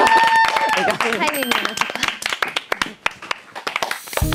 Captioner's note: تصفيق أحسنت